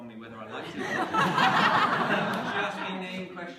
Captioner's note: laughter